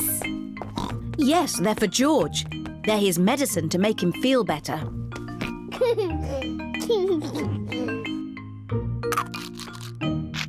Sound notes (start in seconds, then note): 5.6 giggles